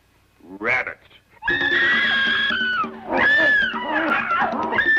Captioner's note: screams